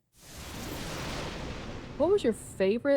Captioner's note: thunder rumbling